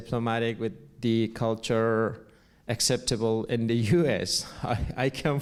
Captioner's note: laughs